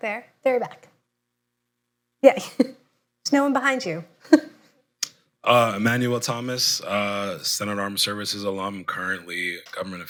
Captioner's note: laughs